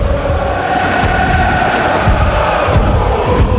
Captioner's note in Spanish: multitud vitoreando